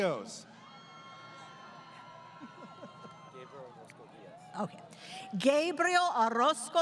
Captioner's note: crowd Cheering